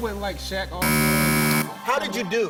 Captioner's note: buzzer